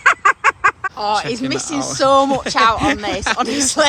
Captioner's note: laughing